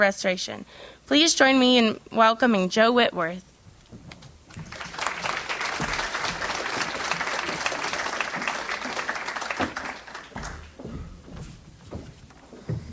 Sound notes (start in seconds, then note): 4.5 audience applauds